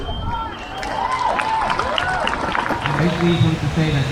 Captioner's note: crowd cheers